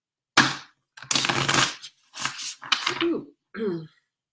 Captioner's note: cards shuffling